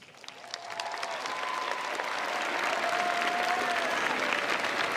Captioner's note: crowd applauds